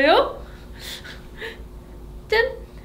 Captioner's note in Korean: 웃음